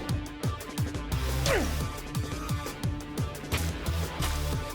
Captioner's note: energetic music; grunting